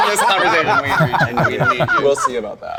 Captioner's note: group laughing